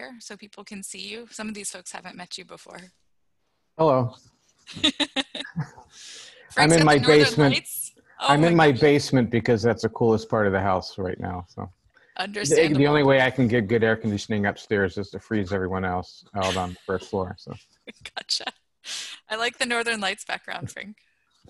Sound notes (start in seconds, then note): 2.9 laughter; 16.4 laughter